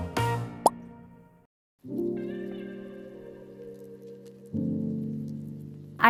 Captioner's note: gentle uplifting music continues; picture pops; gentle serene music